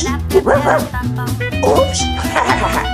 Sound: Rubble barking; Rubble laughing

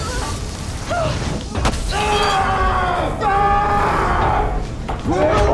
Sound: laughs; embers sizzle; Jesse screams in pain

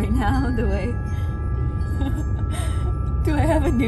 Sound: laughing

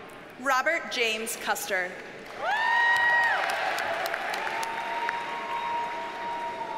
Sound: audience cheers and applauds

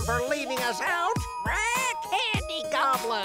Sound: squawking

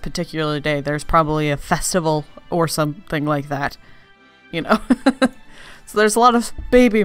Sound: laughs

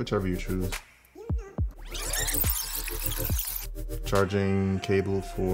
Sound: fast-forward screeching

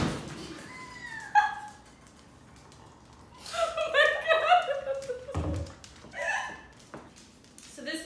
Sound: door opens and sound of dog paws on floor; laughter; laughs

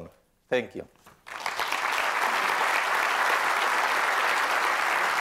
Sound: applause

